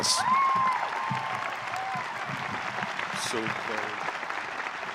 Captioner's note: audience cheering